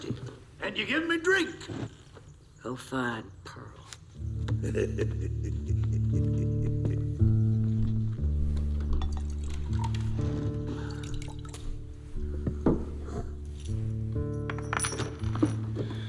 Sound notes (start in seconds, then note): 2.6 Bill Laughs